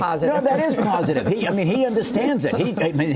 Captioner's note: laughter